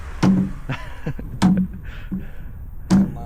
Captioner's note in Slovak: smiech